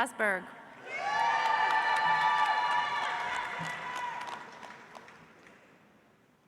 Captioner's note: audience cheers; audience applauds